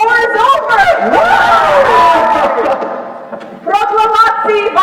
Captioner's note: cheering, laughing